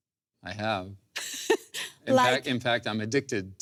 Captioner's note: laughs